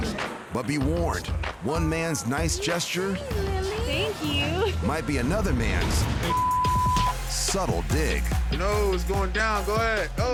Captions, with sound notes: >>But be warned, one man's nice gesture- >>What do you say, Lily? Thank you. (laughs) >>Might be another man's (beep) subtle dig. >>No, it's going down, go ahead.